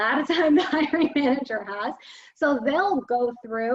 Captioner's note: chuckles